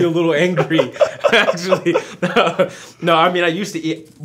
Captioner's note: laughs